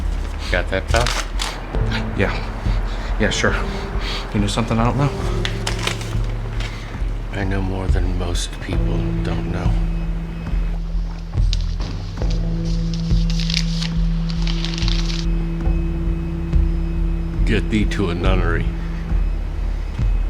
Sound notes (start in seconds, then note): 11.9 object rustling; 20.1 dramatic music